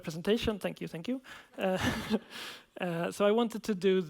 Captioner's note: laughs